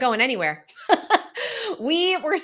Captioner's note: laughs